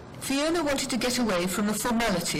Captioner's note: voiceover